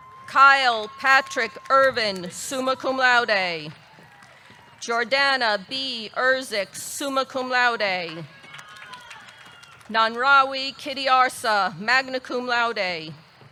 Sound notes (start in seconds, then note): 8.0 audience clapping